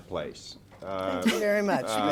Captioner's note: laughter